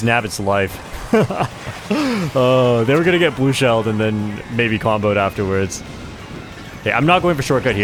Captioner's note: laughs